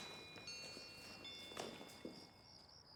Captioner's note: crickets chirping